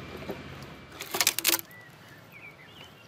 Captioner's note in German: Knacken